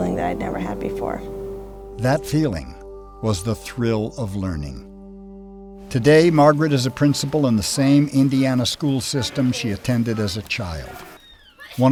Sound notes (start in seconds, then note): 2.2 voiceover